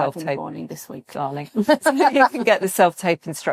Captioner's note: laughing